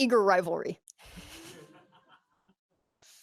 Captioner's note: laughter